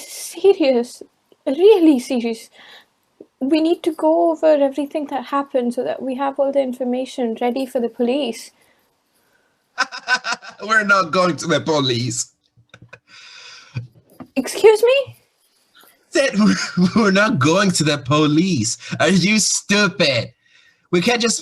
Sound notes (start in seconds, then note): 9.8 laughs